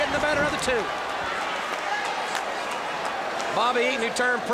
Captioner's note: applause